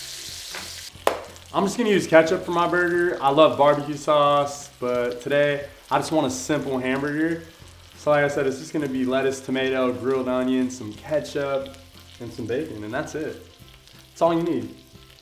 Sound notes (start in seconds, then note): 1.0 hands slap